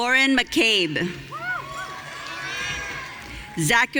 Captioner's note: audience cheering